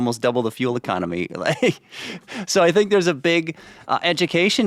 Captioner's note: chuckles